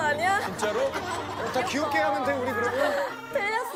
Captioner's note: hehehe